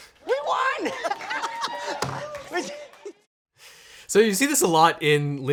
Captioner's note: audience cheering